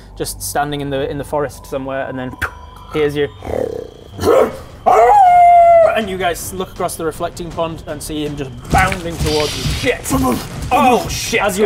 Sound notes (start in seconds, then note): 3.4 growl; 4.0 hrmph; 4.8 awooooooooooooooooo